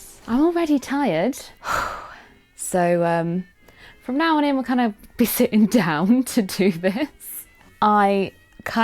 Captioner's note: phew